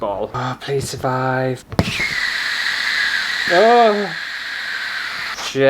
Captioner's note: air Whooshing